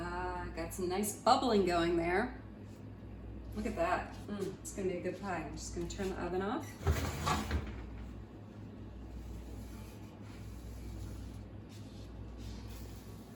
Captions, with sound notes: Ah, got some nice bubbling going there. Look at that, mm, it's gonna be a good pie. I'm just gonna turn the oven off. (oven beeping)